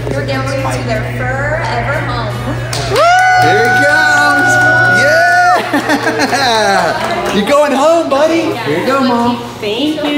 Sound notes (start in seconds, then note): 2.4 people cheering